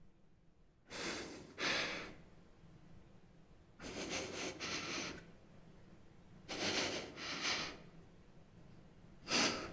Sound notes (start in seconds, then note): 1.6 gasps; 6.4 breathing heavily